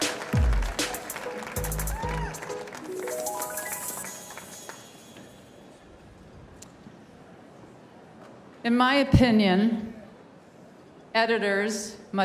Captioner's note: cheers and applause